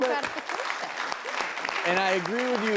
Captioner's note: audience claps